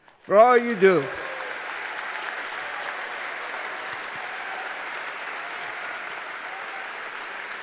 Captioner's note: applause